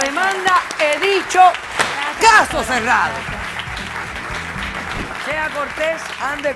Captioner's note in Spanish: Aplausos